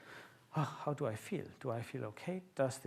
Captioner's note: sighs